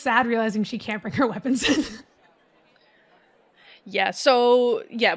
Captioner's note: laughs